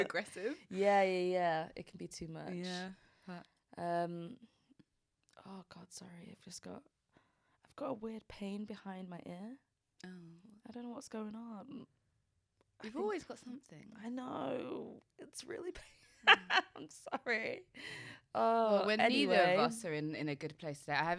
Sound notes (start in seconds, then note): 16.0 laughs